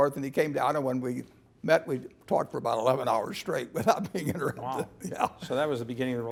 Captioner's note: laugh